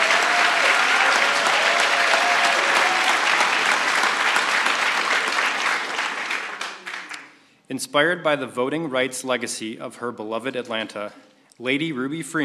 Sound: applause

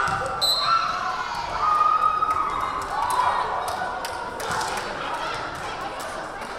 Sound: whistle blaring; crowd cheering

